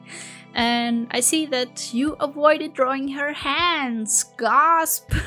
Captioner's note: gasp